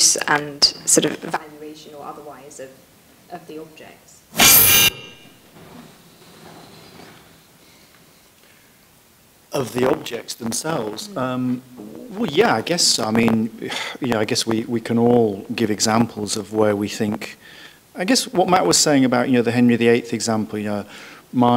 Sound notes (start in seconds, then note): 4.3 microphone screeches